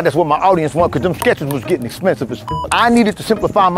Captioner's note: beep